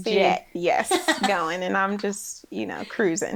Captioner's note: laughs